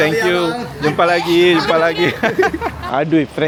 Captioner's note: laugh